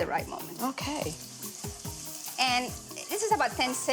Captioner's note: pan sizzling